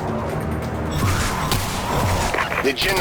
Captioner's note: small explosion/sci-fi gun blast-sounding teleporting sounds